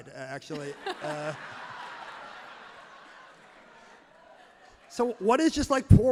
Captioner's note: crowd and laughs loudly